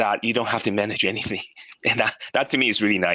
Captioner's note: laughs